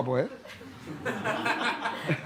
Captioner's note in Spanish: Risas